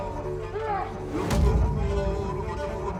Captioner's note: yells; thud!